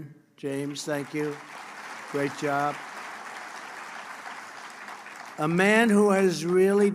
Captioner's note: applause